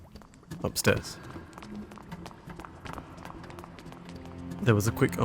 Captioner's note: door opening and many rapid footfalls